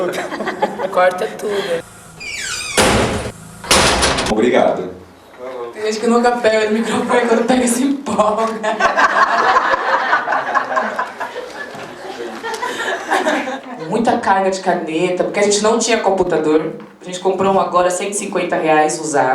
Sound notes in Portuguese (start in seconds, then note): 2.0 Barulho alto de porta batendo; 8.6 Risadas